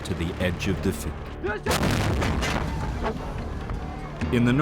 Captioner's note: cannon firing